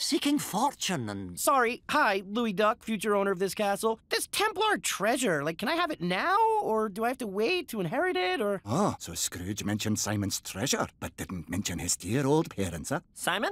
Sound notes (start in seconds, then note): none